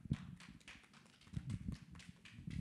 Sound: applause

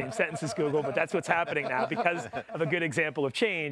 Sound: all laughing

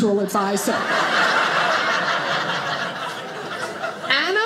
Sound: audience laughing

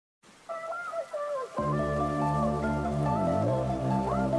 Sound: in Muffled and High Pitched voice

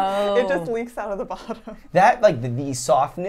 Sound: laughs

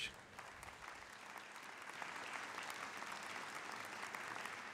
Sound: audience applauding

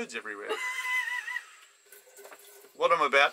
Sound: chuckles

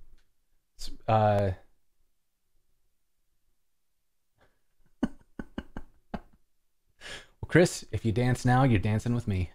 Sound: laughter

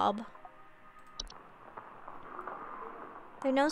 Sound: rustling and light groaning

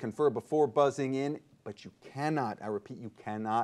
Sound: none

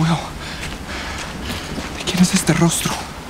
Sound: footsteps

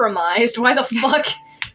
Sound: chuckle

